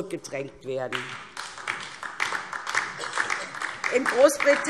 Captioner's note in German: Beifall DIE LINKE